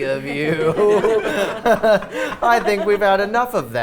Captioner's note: players laughing